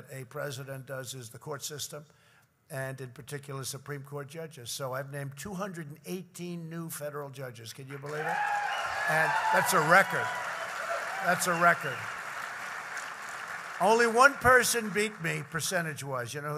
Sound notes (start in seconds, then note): 7.9 applause